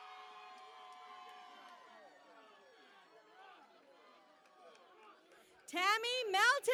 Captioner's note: cheering and Applause